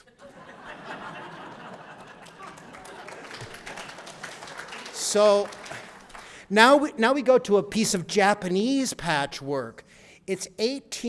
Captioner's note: laughter and applause